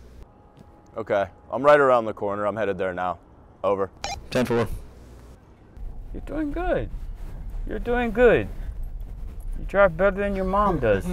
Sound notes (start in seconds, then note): 4.0 radio beeps